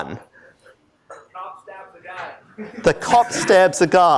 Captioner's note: laughter